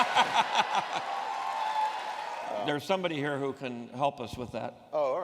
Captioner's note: laughs